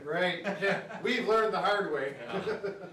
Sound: chuckle

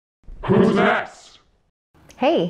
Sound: creepy voice

